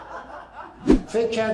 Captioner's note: laughter